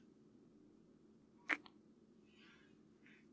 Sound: kiss

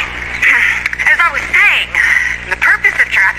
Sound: clears throat

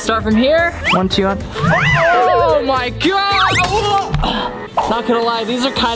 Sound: groans

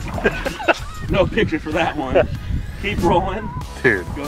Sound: laughing

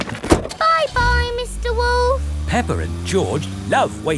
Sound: engine starts

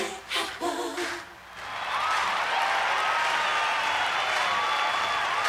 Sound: audience applauds and cheers

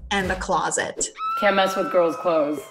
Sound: high-pitched screaming

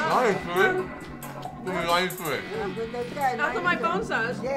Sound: group talking

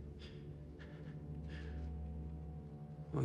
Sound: breathing shakily

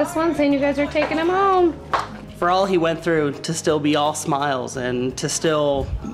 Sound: clapping

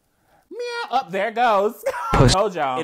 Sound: man meows

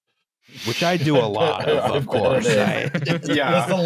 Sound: laughter

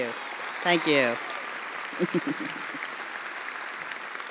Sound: attendees applauding; chuckling

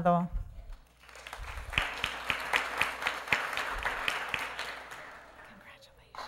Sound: applause

